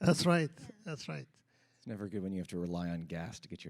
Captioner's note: laughter